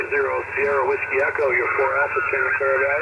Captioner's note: radio static